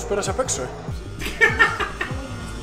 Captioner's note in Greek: γέλια